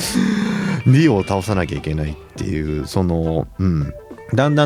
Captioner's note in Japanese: 息をのむ音